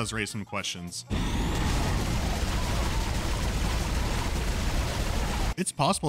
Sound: rapid fire and screams of necromorphs

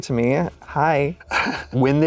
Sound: laughs

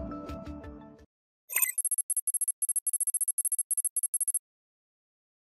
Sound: beep, code running

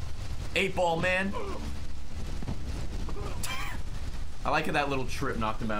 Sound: laughs

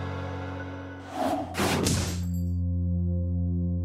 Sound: logo whirs

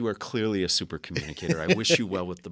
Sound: laugh

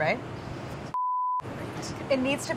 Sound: beeping

